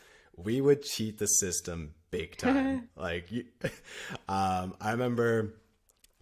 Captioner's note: laughter